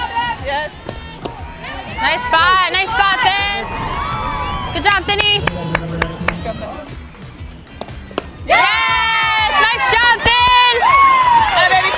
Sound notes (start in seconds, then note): 4.1 crowd cheering; 5.1 clapping